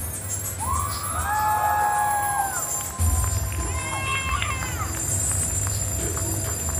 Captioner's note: audience cheers; audience applauds